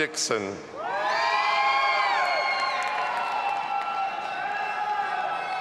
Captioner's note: audience applauding and cheering